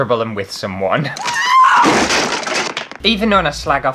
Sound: scream; crash

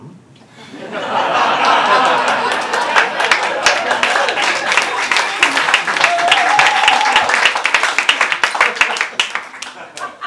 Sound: laughter and applause

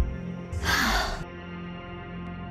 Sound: sigh

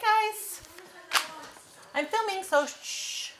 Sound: children faintly speaking

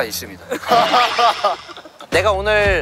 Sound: his friends is laughing at him

